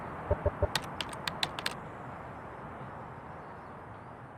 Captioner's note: keyboard clicks